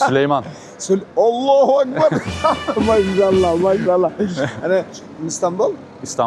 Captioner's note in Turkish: kahkaha